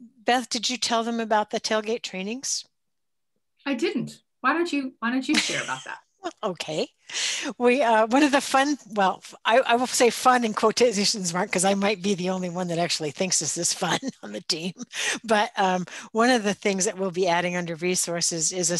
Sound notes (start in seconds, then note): 5.3 chuckling